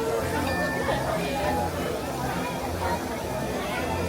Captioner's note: scanner pings